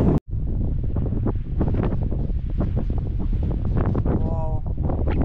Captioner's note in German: Windgeräusche